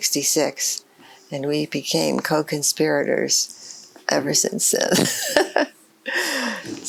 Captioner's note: laughs